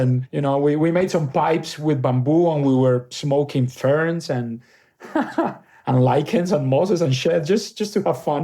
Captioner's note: laughs